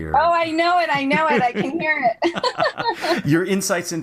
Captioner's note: laugh